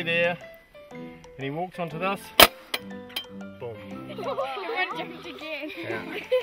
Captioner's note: trap snaps shut